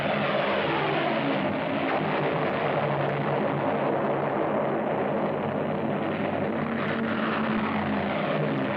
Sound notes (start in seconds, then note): 1.7 explosions